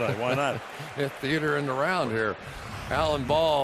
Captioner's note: laughs